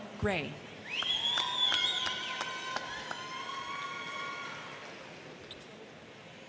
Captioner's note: crowd cheering; crowd clapping